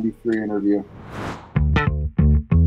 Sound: footage wooshes; upbeat guitar music

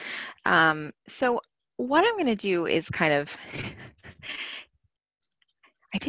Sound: laughs

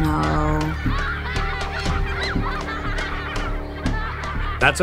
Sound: children giggling

